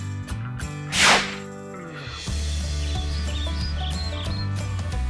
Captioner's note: air whooshing; bright music continues